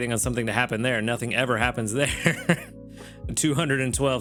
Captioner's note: laughs